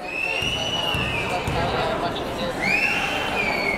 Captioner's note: whistling